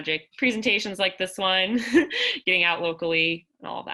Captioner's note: laughter